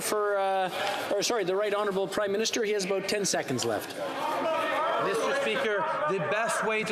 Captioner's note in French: voix de l'interprète